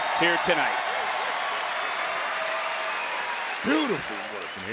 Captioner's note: crowd cheering